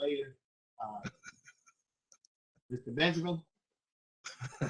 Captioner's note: laughter